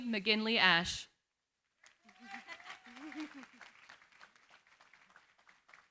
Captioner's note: applause